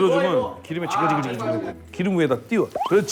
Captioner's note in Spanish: Como friendo